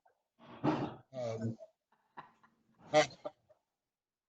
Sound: chuckling

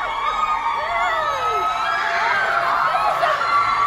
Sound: crowd cheering

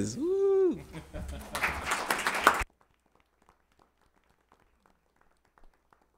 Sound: audience clapping

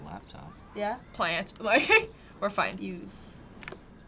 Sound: laughing

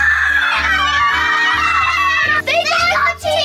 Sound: boys yelling

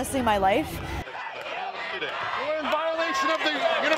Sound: crowd chanting

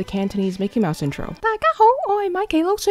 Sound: Cantonese

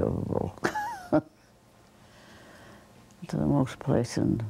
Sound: laughter

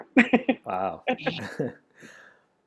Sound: laughs

